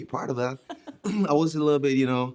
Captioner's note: laughing